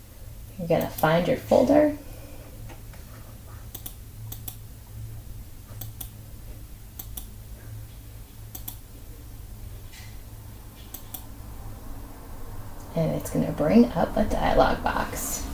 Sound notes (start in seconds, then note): 4.2 gentle mouse clicking sounds; 8.5 still clicking